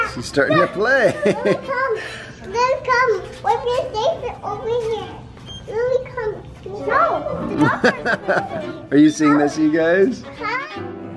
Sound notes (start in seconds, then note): 7.5 laughing; 10.9 light music